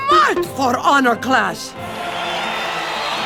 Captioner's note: an imaginary crowd cheers